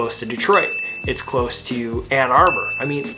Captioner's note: graphics ding